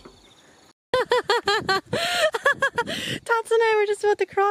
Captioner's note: laughs